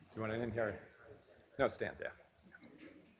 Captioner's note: mumbles off mic